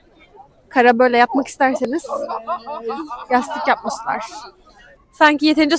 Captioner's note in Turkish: kahkaha